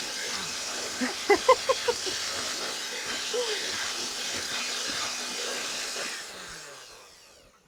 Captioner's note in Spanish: risas y batidora